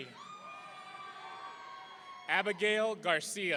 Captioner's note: audience cheering